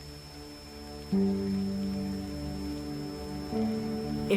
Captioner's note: crickets chirping